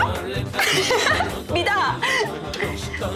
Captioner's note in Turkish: Gülme sesi